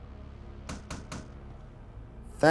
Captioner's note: knocking